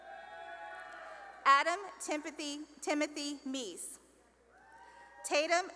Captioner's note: cheering; cheering; cheering and applause